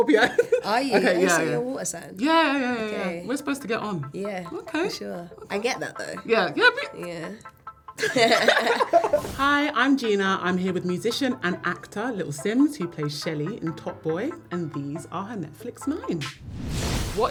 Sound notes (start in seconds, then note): 8.0 laugh